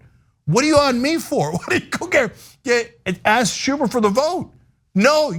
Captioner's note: laugh